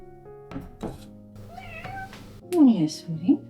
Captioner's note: cla-clank; cat meows!